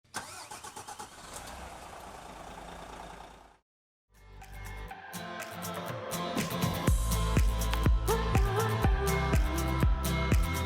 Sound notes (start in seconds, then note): 0.0 engine starting; 4.2 upbeat music